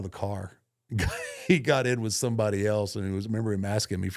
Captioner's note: laughs